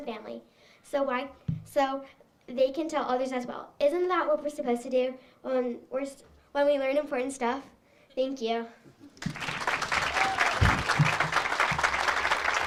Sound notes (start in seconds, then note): 9.2 audience applauds